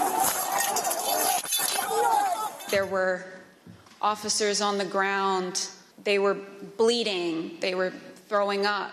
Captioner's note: excited crowd sounds